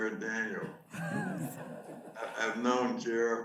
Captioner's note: audience laughs